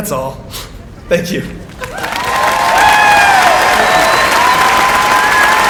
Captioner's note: applause